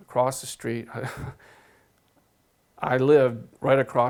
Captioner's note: laughs